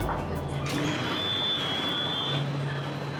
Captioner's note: doors opening